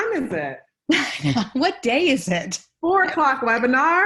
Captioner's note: chuckles